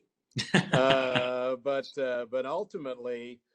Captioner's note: laughing